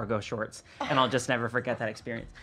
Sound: gasping

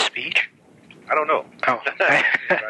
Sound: laughs

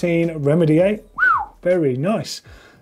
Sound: whistles

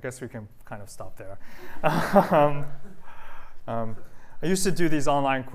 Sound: laughter

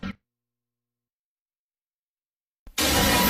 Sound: silence; lightning crashing down as low-pitched rousing fanfare plays

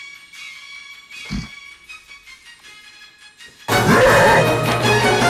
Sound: grunts

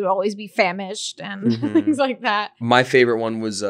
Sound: laughing

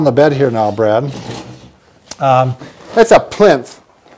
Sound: moves chair across floor

